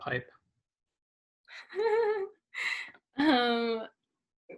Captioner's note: laughs